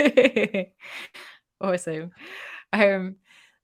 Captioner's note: laughter